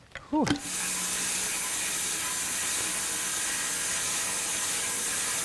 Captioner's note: electric saw screeching